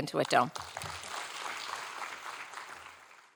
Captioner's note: audience applauding